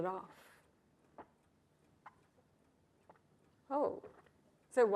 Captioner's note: Michael gulping wine